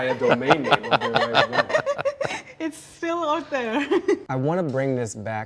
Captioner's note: laughs